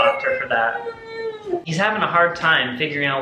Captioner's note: baby crying